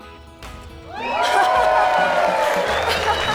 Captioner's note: audience cheering; laughing